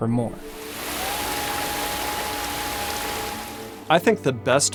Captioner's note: muffled hoot